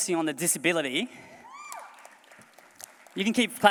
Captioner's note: applause